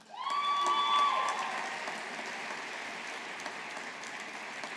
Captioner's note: audience applauding